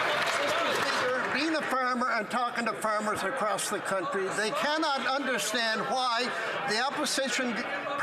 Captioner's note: some Applause